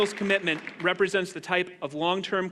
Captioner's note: applause